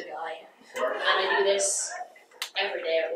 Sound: audience laughs

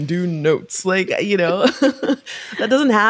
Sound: chuckles

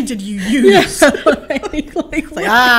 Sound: laughter

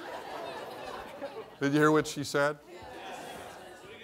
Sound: laughter

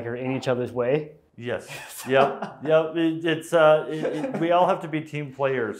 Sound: laughing

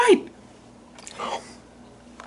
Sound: nom

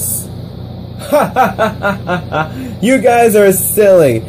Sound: laughing

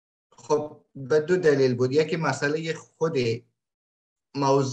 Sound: speaks in Dari

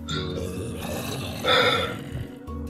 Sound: sigh

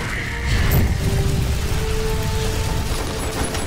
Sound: howling

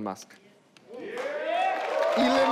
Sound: audience cheering

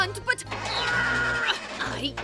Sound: groaning

